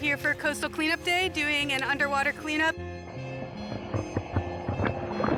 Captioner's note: water bubbling